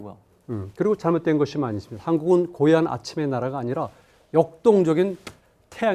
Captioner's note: speaking in Korean